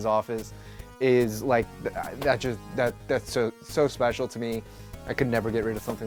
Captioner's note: stammers